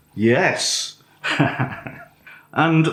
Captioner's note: laffs